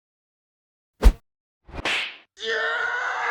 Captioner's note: whoosh, smack